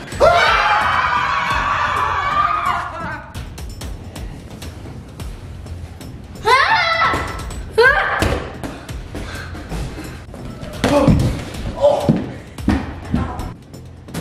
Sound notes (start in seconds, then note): 0.1 everyone screams; 2.9 intense music; 6.5 screams with effort; 8.2 ball bounces; 8.6 breathing heavily; 11.1 thud